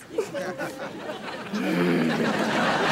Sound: groaning

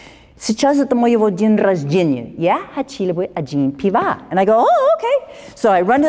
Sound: speaking russian

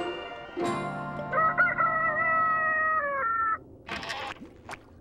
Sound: rooster crowing

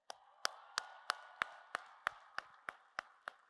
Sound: applause

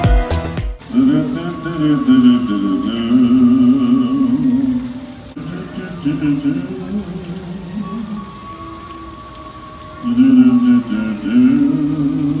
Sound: fountain is singing

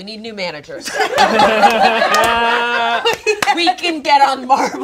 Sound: group laughs

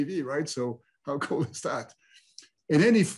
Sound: chuckles

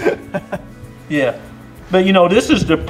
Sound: laughter

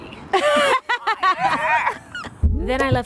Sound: laughter

